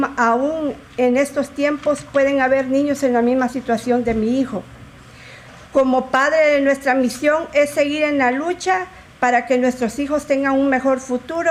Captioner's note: speaking in spanish